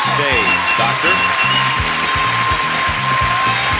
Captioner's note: audience cheers; bell rings; audience cheers; upbeat music